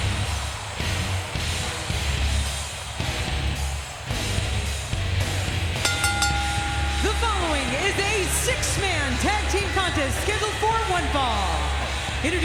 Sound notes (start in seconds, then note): 0.2 rock music plays; 5.8 bell rings